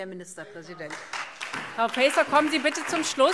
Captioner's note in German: Beifall SPD und Freie Demokraten